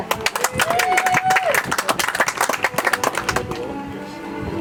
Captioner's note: audience applauds; soft music